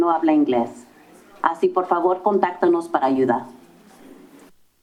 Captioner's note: foreign language; silence